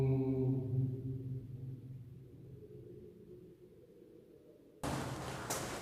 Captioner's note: the echo after buzzing